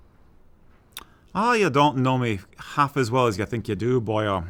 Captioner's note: in Irish accent